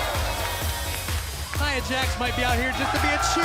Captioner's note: cheers & applause